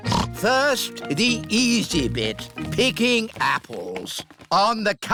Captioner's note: snorts